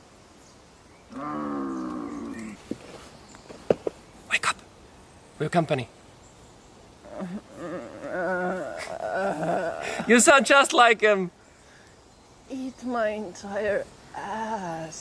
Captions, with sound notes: *zombie groans* Wake up. We have company. *groans* You sound just like them! Eat my entire ass.